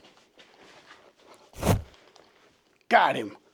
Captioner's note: grabbing sound